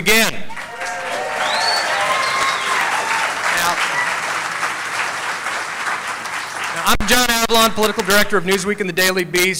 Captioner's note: cheering